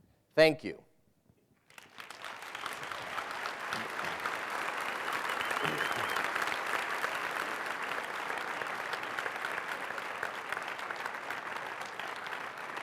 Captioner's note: applause